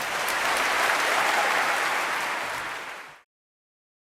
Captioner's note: clapping